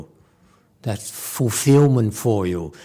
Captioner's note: none